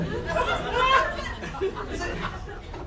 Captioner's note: audience laughter